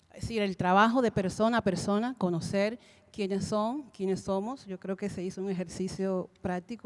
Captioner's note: Spanish language 00:36:32